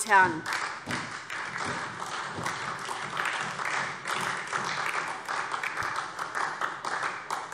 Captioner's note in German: Beifall SPD und vereinzelt DIE LINKE